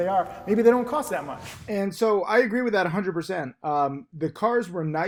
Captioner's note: air whooshes